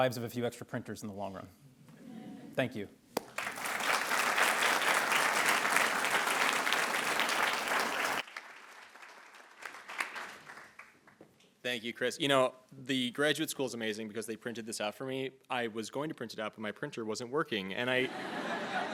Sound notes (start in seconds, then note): 2.0 attendees laughing; 3.2 attendees applauding; 18.0 attendees laughing